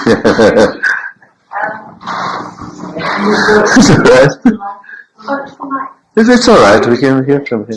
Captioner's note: laughs